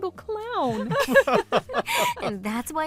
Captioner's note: laughter